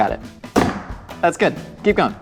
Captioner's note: bang